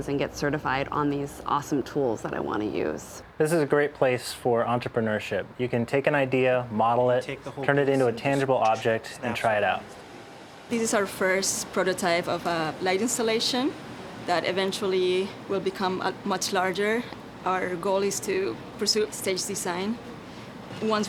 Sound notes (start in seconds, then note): none